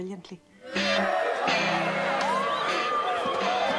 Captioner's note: Aplausos